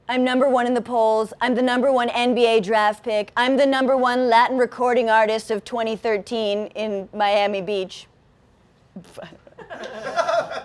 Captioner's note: laughs